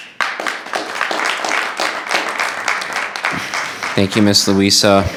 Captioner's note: audience applauding